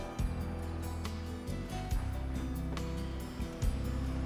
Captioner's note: car approaching